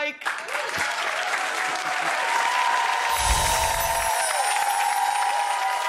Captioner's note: audience clapping and cheering